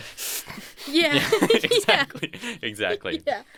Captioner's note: heavy breathing